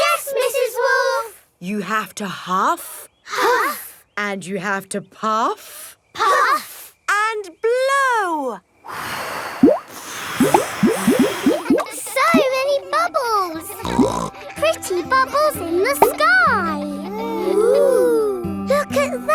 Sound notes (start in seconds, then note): 9.4 all blowing; 13.8 snorts